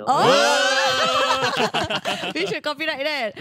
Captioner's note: cheering